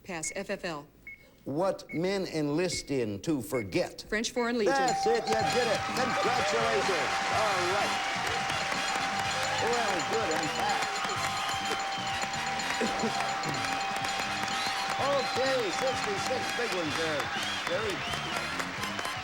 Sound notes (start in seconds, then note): 7.7 audience applauding